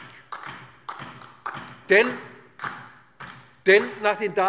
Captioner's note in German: Beifall DIE LINKE